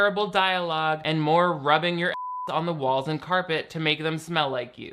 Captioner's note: beep